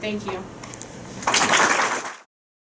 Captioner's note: crowd applauding